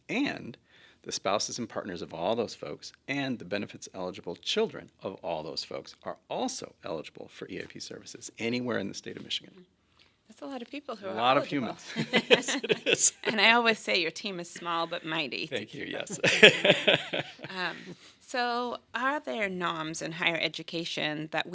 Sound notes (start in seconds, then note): 11.8 everyone laughing; 15.9 laughs